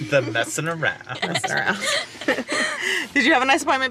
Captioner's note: laughs